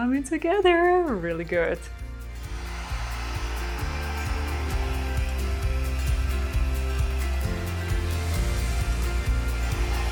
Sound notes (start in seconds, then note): 2.4 hair dryer whirring; 2.8 lively music